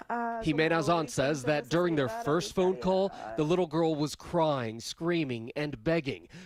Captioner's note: speaking a foreign language